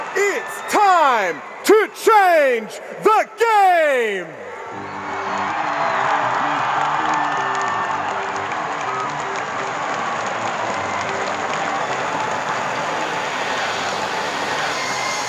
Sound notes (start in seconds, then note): 4.6 crowd screaming and cheering; 14.3 exciting music playing